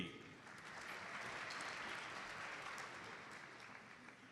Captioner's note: audience applauds